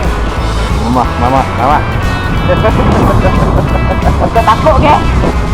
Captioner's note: laugh